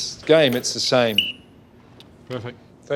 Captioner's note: whistling